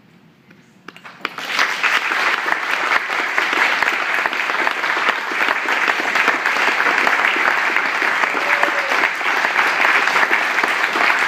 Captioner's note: audience applause and standing ovation